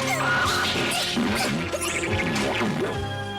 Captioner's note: grunting